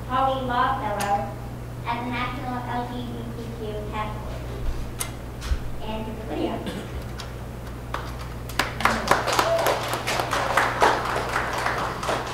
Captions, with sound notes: Poly Law Fellow at the national LGBTQ task force. And here's Lydia. (audience applauding)